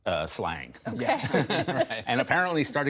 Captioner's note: laughter